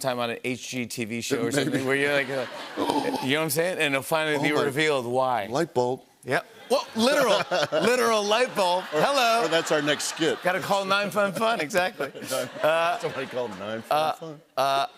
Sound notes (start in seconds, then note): 2.7 gasps